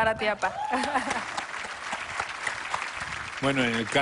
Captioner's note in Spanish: Ríe; Aplausos